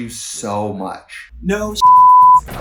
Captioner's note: beep